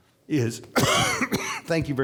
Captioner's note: coughing